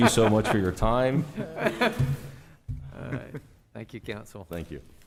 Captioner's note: laughter